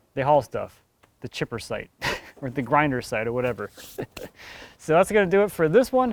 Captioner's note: laughs